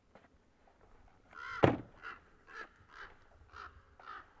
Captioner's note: crows cawing